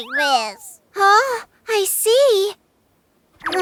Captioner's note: exclaims